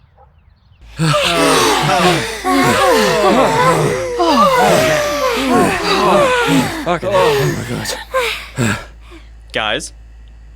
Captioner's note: catching breath